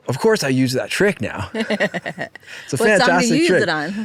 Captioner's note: chuckling